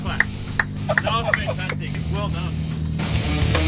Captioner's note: laughing